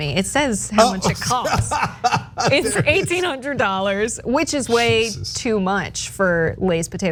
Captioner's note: laugh